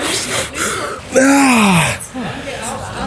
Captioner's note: groaning